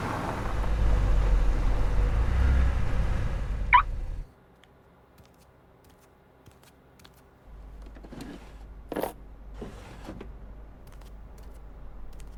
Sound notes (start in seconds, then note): 3.6 car beeping